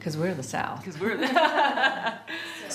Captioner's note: laughing